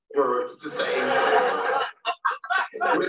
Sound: laughter

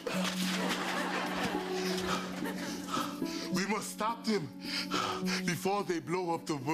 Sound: with Austrian accent; panting

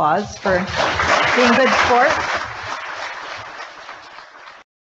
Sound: audience applauding

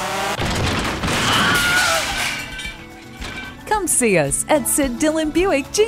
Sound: crash, screaming

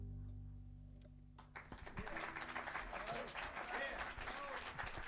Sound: saludos y aplausos; cheers and applause

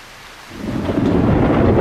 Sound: thunder

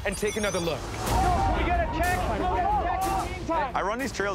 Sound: excited yelling

